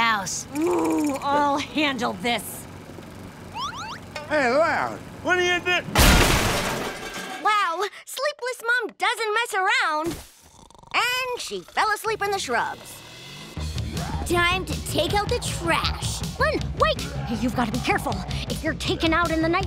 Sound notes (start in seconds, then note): 5.9 banging; 10.4 Rita snoring